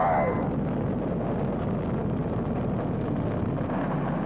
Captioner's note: rocket booming